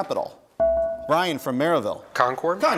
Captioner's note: bell rings